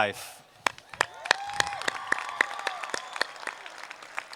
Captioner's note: applause